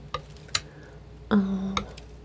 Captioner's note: scratching